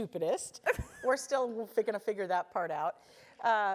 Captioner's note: laugh